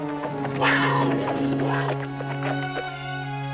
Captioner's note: panther growls